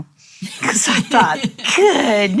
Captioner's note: chuckles